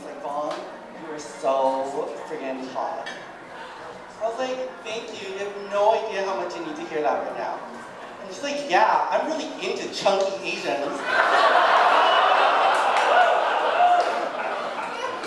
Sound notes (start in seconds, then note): 10.9 audience laughing